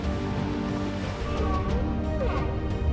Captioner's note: whale calling